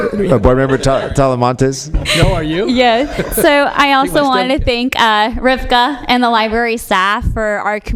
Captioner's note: laughter